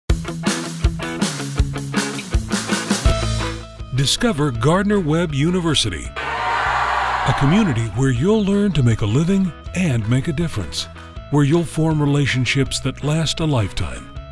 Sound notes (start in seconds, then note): 0.0 upbeat music plays; 6.1 cheers